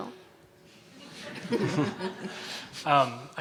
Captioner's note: chuckles and audience laughter